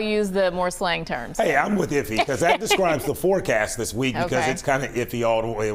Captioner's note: laughter